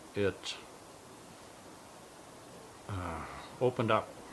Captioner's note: sighs